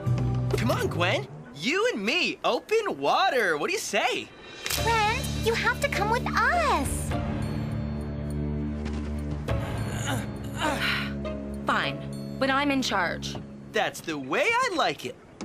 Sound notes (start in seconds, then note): 9.9 Gwen Sighs